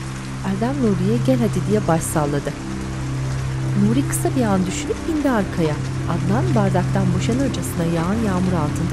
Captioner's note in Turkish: Yağmur sesi